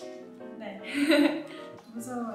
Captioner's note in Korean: 웃음